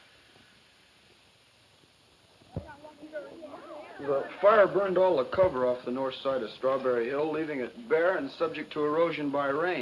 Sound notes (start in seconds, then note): 2.5 group chatter